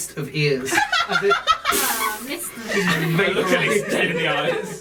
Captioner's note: disintegrating sound